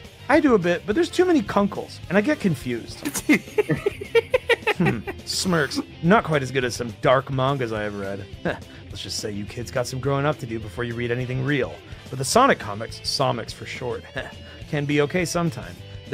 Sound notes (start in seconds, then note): 3.0 laughs